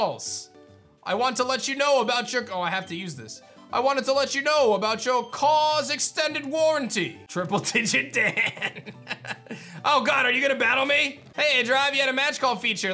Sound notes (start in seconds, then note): 7.8 laughs